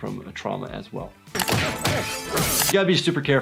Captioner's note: glass breaking